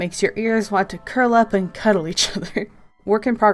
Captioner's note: laughs